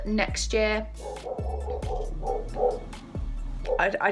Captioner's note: SWEET GORL starts barking